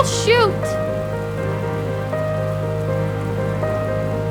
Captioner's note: rain splashing